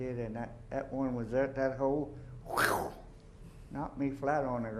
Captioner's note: zoom